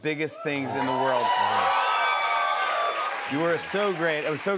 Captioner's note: cheers and applause